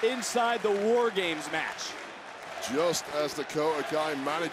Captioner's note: crowd cheering